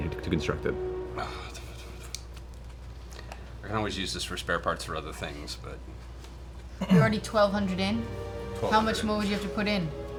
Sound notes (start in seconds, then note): 1.1 sighs